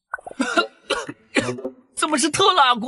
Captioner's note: cough cough